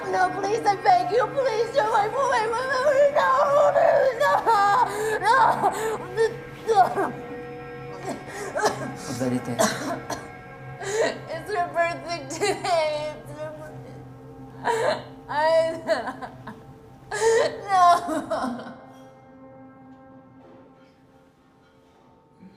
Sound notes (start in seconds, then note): 17.0 sobbing